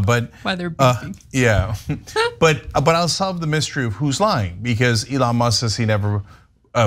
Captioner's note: laugh